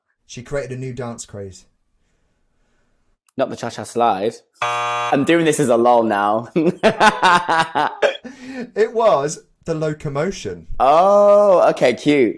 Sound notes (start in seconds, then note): 4.6 buzzer sounds; 6.6 laughs